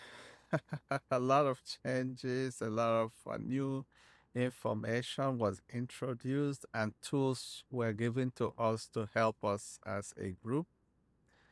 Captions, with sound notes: [laughing] A lot of changes, a lot of new information was introduced and tools were given to us to help us as a group.